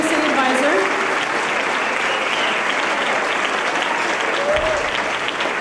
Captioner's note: applause